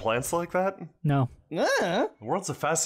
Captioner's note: shrug sound